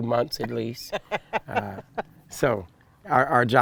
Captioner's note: laughing